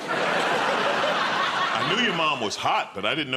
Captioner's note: laughter